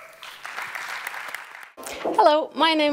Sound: applause

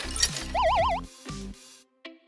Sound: UFO noise

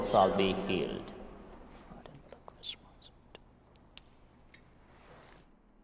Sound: whispering

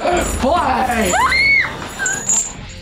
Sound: screams

